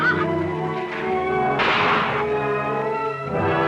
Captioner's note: horse neighs; gunshot; classical music